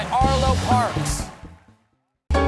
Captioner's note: cheers and applause; band playing